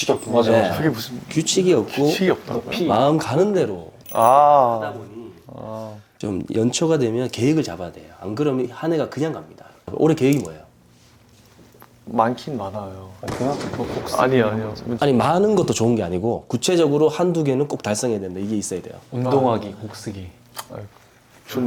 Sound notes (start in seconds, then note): 5.5 hmm